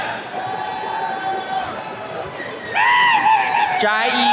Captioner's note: attendees cheering